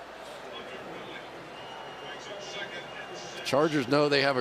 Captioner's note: pa announcement